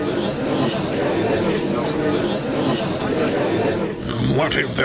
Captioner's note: gallery chattering